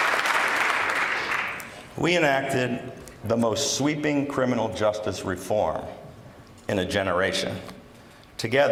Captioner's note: applause